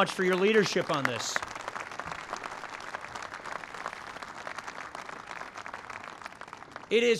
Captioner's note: applause